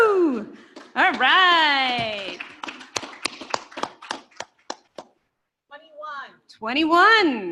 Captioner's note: applause